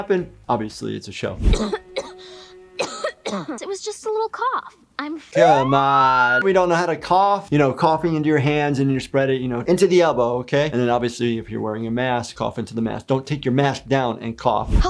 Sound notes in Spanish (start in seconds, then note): 2.7 Katara tosiendo; 5.5 Sirenas de policía